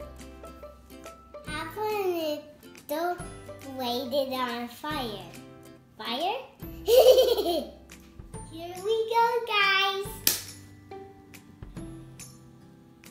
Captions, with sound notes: Have an adult light it on fire. Fire?(laughter) Here we go guys!